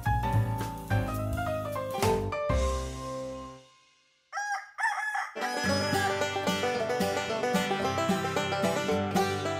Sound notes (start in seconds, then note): 4.3 rooster crows; 5.3 banjo plays